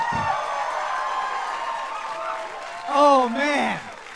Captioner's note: audience continues cheering and applauding